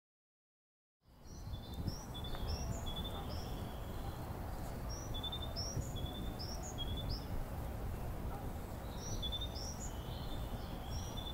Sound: sound of birds

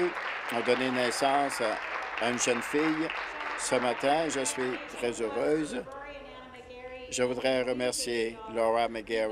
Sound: applause

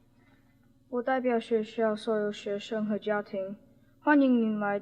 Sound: spoken in Mandarin Chinese

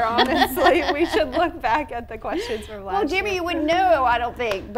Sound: hosts laughing

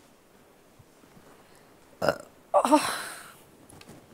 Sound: burping

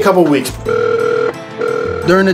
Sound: phone ringing

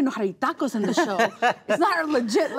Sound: all laugh

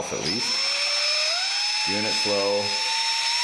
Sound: whirring

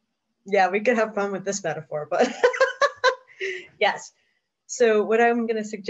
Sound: laughs

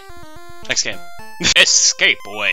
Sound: laff

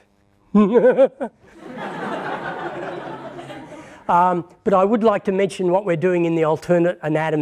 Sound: laughter

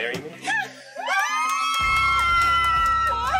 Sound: crowd cheering; screams

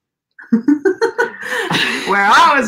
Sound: laughs

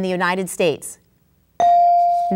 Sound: ding

